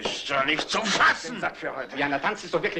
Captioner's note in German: Stöhnen, Murmeln